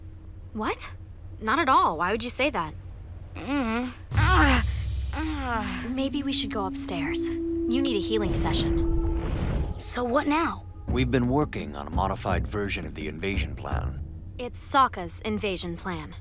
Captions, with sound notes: What? Not at all. Why would you say that? Mm-mm. [groaning] Maybe we should go upstairs. You need a healing session. So what now? We've been working on a modified version of the invasion plan. It's Sokka's invasion plan.